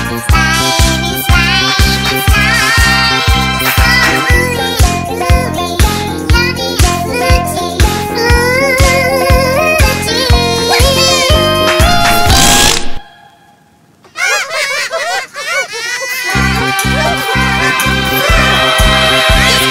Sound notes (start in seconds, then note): 12.2 fart sound; 14.0 laughter